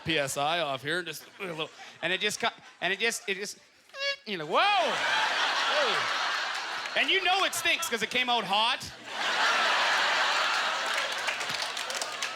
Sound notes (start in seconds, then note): 4.8 audience laughter; 9.3 scattered applause